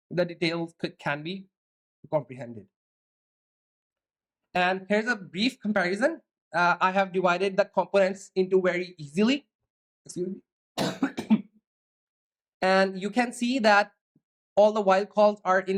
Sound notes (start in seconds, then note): 10.8 clears throat